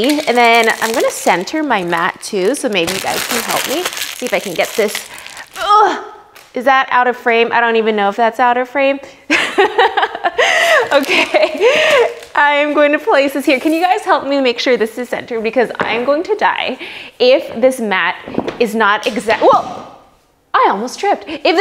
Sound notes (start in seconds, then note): 5.6 grunts; 9.3 laughs